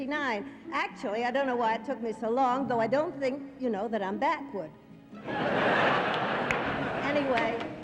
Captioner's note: crowd laughter